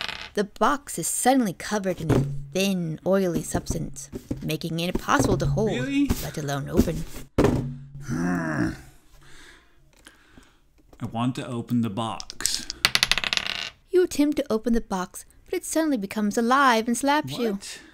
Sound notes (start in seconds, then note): 0.0 sounds of dice being shaken and thrown; 8.0 growls; 12.2 sounds of dice being shaken and thrown